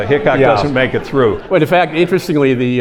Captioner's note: audience laughing